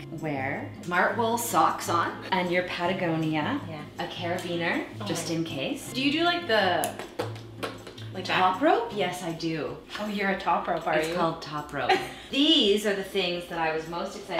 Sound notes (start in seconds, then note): 7.5 mouth sounds